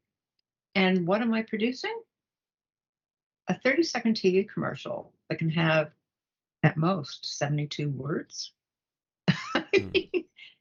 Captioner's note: laugh